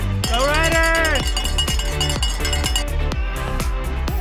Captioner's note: bell ringing; upbeat music continues